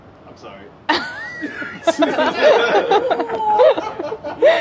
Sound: laughing

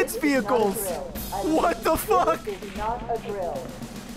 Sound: laughs

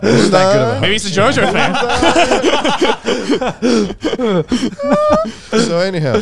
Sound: group chattering; all laughing

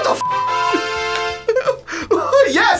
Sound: laughs

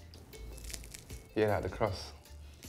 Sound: crunching

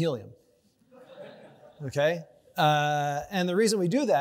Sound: audience laughs

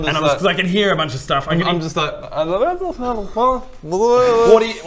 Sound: innocent mumbling

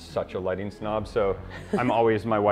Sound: chuckles

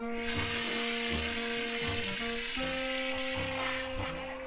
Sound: fire extinguisher sprays

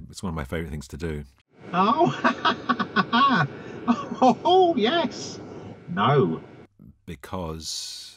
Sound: laughter

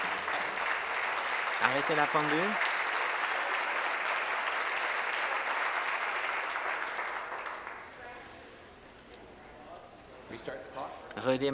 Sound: applause

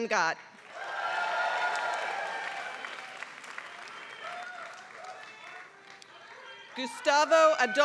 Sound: applause

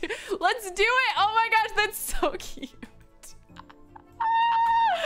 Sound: laughs

